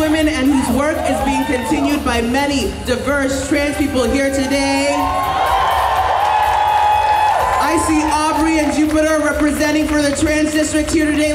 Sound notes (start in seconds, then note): 4.1 audience cheers